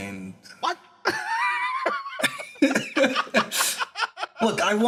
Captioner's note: laughs